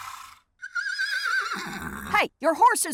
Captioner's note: horse neigh